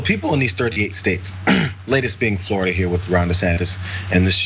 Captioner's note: cough